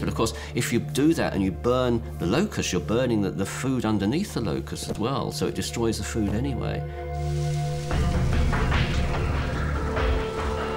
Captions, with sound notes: but of course, if you do that, and you burn the locusts, you're burning the food underneath the locusts as well, so it destroys the food anyway. [locusts fluttering] [tense music]